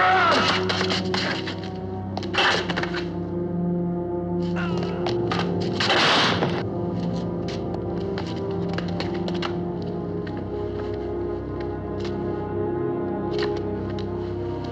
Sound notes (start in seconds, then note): 0.8 groans